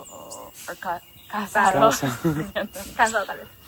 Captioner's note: laughter